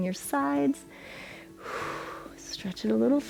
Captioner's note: inhales and exhales